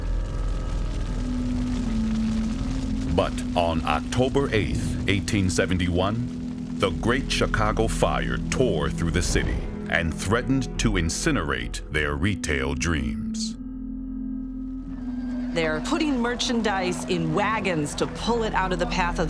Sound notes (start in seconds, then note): 1.2 fire roars; 1.2 ominous music